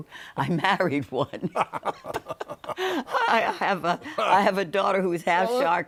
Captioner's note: both laughing